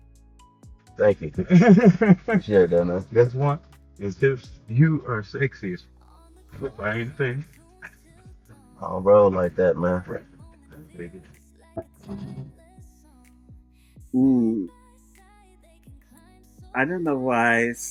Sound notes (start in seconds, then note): 1.4 laughing; 10.7 upbeat music